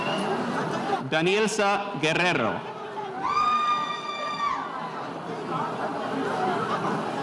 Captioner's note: spectator cheering